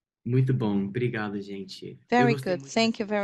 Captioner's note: speaking Portuguese